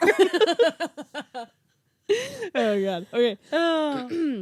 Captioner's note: laughing